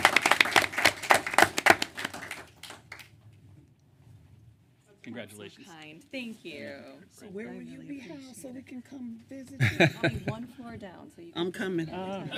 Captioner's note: applause